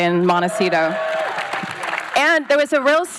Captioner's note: applause